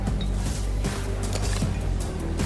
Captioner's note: gun clicking